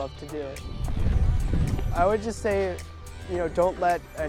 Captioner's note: wind whooshes